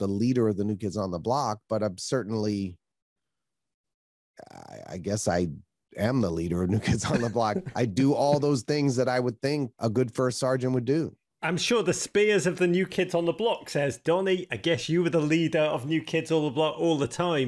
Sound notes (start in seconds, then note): 6.7 laughs; 6.7 chuckles